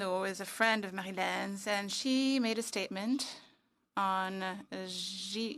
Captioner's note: speaking French